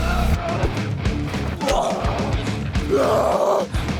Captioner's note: both moaning